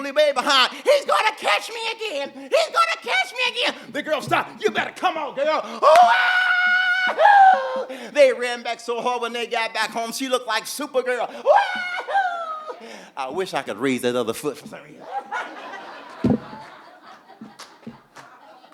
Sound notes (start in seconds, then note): 5.8 Bimwili screaming; 11.4 Bimwili screaming; 14.8 audience laughing